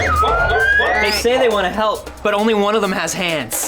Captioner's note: Droids chirp